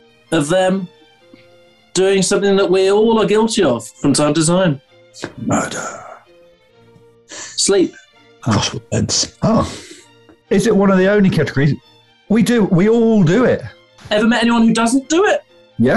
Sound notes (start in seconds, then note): 5.4 whispers